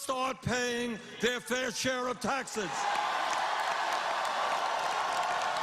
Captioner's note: cheers and applause